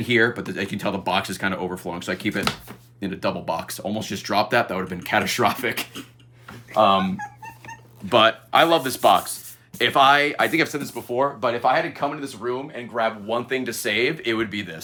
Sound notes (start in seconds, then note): 6.5 giggles